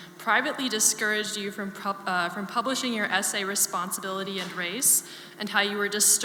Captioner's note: none